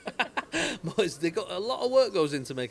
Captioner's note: both laugh